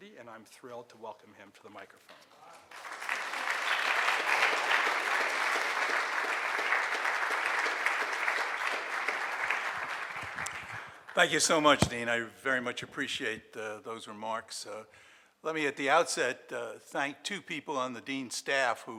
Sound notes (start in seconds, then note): 2.6 audience applauding